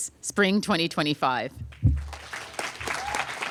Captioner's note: applause